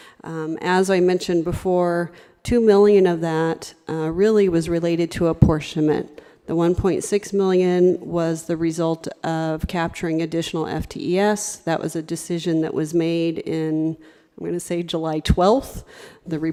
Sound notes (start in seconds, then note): none